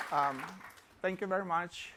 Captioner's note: applause